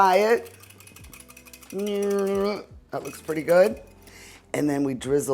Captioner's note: whisk clanking